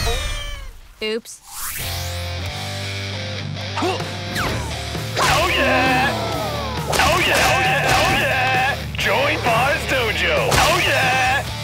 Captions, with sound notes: Oops. [grunting] Oh, yeah. Oh, yeah. Oh, yeah. Oh, yeah. Joey Par's Dojo. Oh, yeah.